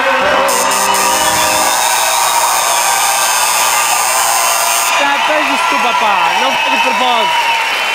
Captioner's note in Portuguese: campainha e aplausos